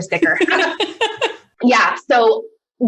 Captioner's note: laughter